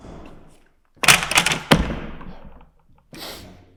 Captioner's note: books thudding; sniffs